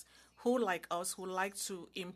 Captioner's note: speaking in French